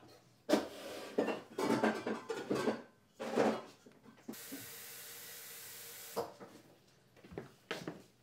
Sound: sound of rummaging and water running

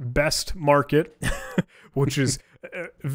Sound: both laughing

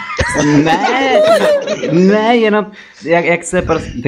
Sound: more laughter; wheezing noises

